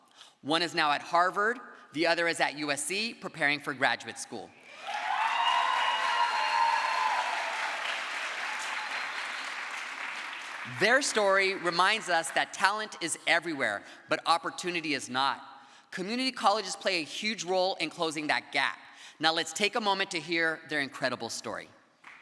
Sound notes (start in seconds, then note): 7.1 crowd applause